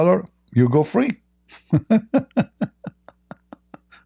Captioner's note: Ketawa